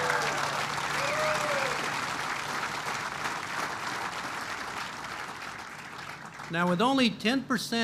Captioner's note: applause